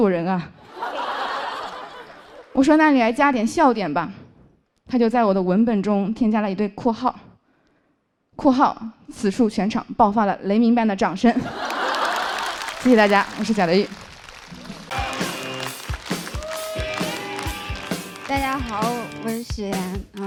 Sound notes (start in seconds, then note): 11.4 A thunder-like applause broke out here